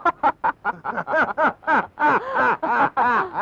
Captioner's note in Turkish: Kahkahalar